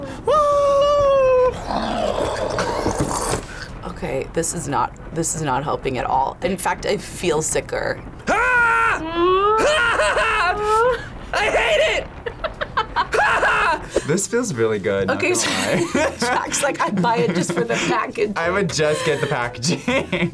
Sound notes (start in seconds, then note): 1.7 laughs; 8.2 yells; 9.0 laughs; 15.4 laughs